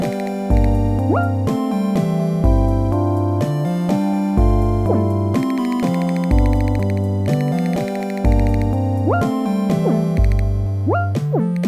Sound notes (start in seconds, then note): 0.5 clicking sound; 5.4 clicking sound